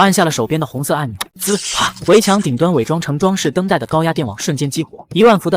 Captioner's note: click!